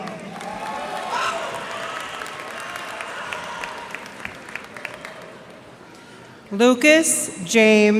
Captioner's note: cheers and applause